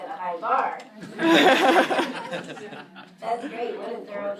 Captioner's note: group laughs